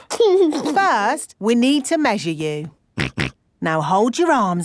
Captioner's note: snorts